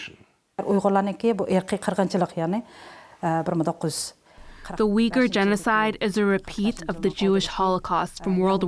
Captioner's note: through translator